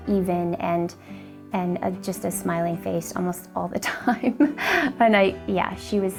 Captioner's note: laughs